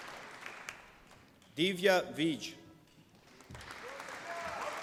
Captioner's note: applause